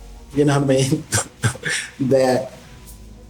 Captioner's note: laughing